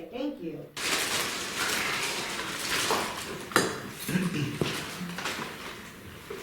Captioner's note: shuffling paper